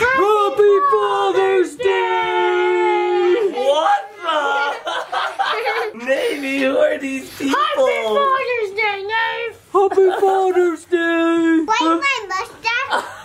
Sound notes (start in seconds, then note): 5.3 laughs